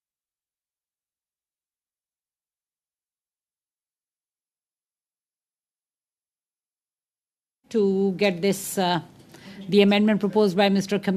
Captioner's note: silence